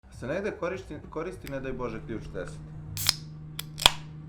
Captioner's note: sound of a beer can opening